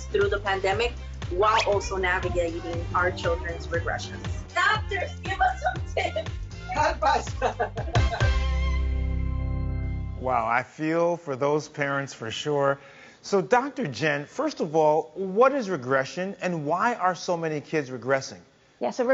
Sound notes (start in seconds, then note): 5.2 laughs; 8.0 dramatic music